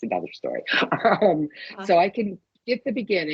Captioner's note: chuckling